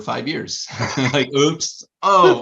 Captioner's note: all laughing